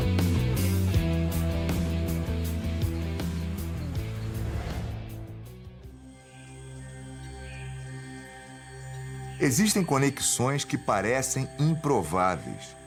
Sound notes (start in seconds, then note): 0.1 song ends; 6.1 rainforest noises